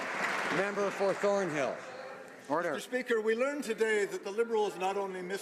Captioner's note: some Applause